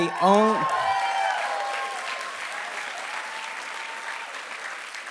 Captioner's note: applause